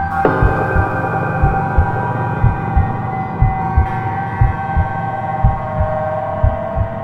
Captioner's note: eerie music; heart beating